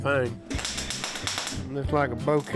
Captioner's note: welder crackling